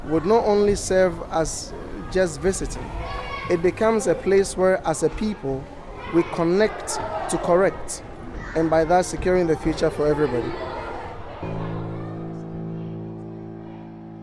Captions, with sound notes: would not only serve as just visiting. It becomes a place where, as a people, we connect to correct, and by that securing the future for everybody. (crowd chattering) (somber music)